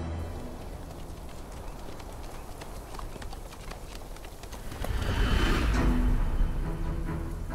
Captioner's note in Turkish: Nal sesleri